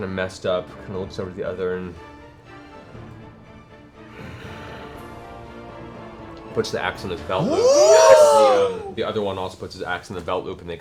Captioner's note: sighs